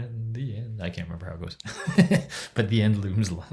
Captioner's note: chuckles